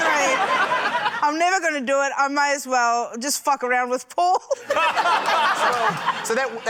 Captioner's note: laughter; laughter